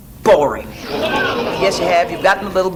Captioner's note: audience laughs